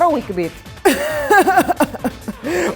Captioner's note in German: Lacht